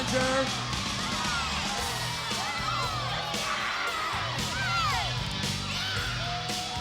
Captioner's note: crowd cheering; rock music